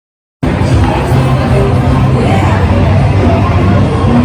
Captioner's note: crowds talking